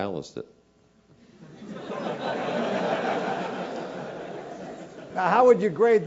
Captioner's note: laugh